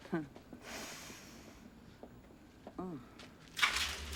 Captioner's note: sniffs